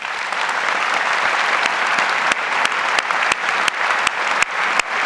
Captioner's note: audience applauds